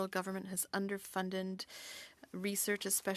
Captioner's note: speaking French